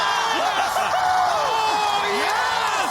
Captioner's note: cheering